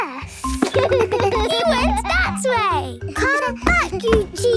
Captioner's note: giggles